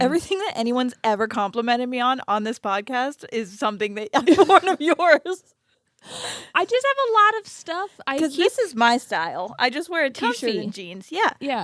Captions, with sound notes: - Everything that anyone's ever complimented me on, on this podcast is some thing that I've worn of yours. (both laughing) - I just have a lot of stuff. - 'Cause this is my style. I just wear a t-shirt and jeans. - Comfy.